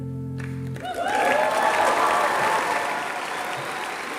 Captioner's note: applause